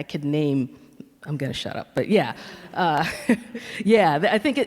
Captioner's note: laughs